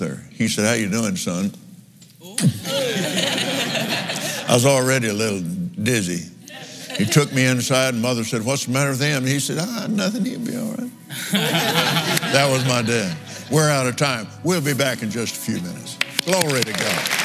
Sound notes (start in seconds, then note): 11.1 laughs